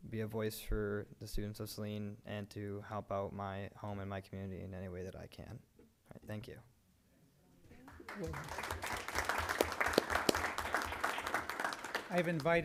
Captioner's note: applause